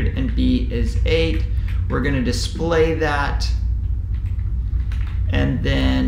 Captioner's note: keyboard typing sound